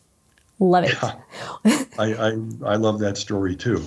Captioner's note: chuckles